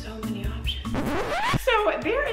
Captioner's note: record scratches